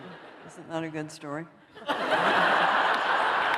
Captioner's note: laughter